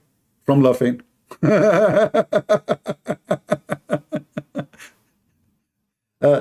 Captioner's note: Ketawa